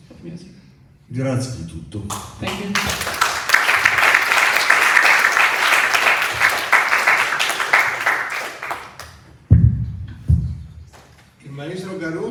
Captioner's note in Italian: Applauso